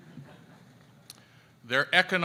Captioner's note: audience laughs